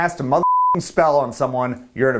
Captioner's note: beep